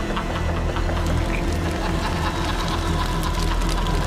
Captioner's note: fire crackling